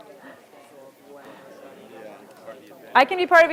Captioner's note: audience chattering softly